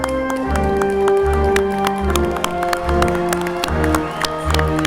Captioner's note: triumphant music continues; crowd applauding